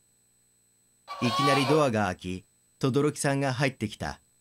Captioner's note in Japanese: ドアの開く音：ギイイィィ